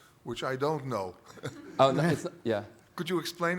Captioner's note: laughter